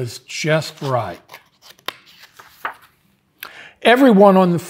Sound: pages rustling

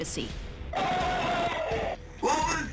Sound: screaming

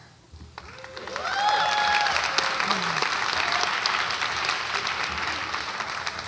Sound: audience applauds and cheers

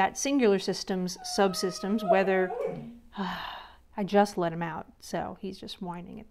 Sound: dog whining

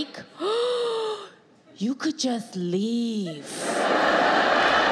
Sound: gasps; audience laughs

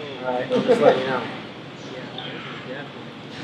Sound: laughs

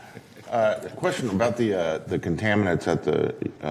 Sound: laughter

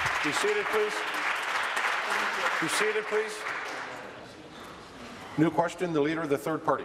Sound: applause

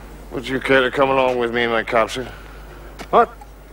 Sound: Welsh accent

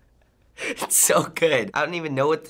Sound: chuckling

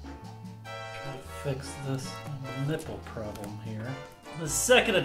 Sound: quietly

